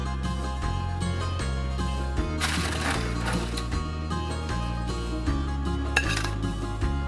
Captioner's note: rustling from lifting pastry; plate clink